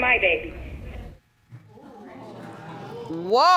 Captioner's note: audience murmuring